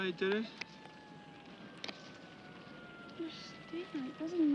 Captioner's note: sirens approaching